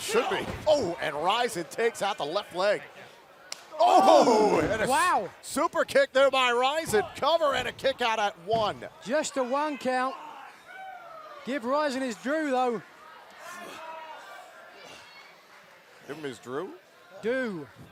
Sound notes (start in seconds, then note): none